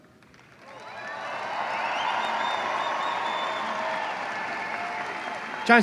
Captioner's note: applause